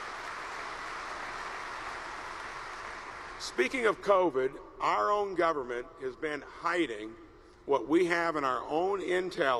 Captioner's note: applause